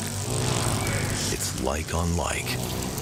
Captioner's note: hornets buzzing